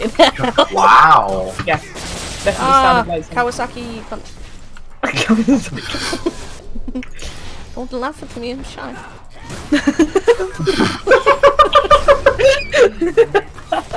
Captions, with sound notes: wooooow. ahhhhhhh, KOWASAKIIIIIIIII cunt. (hahhahaha) dont laugh at me, I'm shy...